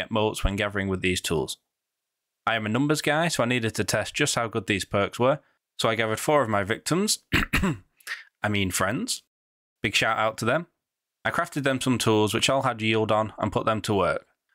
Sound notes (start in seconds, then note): 7.2 cough